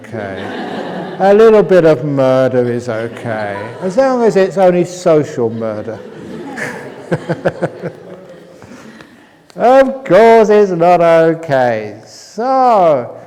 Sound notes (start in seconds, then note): 0.2 laughter; 5.3 laughter; 8.7 laughs